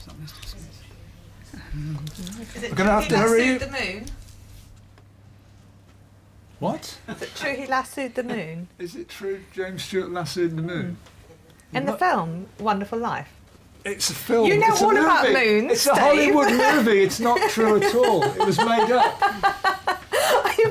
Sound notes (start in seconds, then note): 17.4 laughs